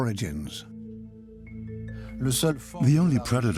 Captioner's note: French dubbed into English